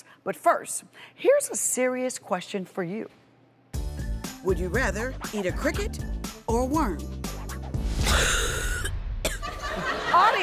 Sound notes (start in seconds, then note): 7.9 gagging; 9.4 audience laughter